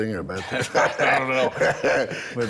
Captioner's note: everyone laughing